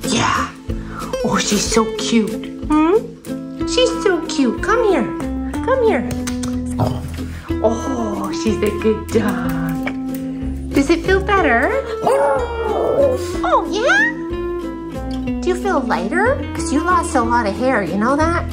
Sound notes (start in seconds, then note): 11.9 howling